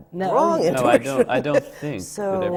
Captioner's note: laughs